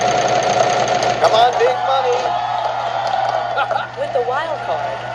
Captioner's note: pat